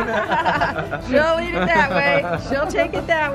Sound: laughs

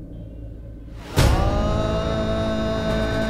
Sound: emotional vocalising

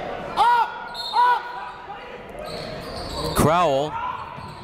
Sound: whistle

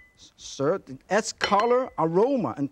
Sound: bowl clinks

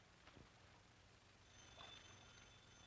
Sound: phone ringing

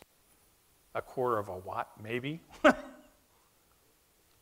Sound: laughs

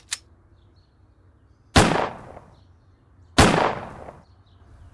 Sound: gun cocks; gunshots

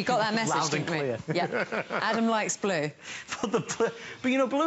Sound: laughter

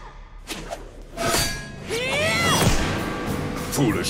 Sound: grunting

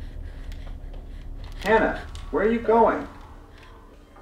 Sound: on TV

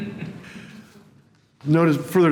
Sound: laughter

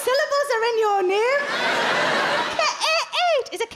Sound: crowd laugh

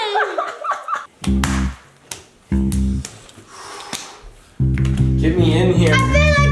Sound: hands clapping; upbeat music

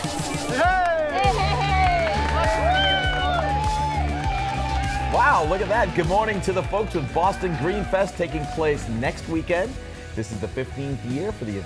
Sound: cheers and applause

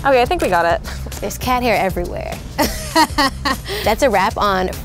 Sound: laughs

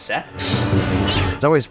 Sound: sabers clashing

